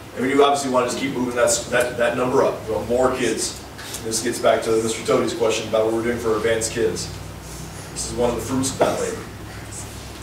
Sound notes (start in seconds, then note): none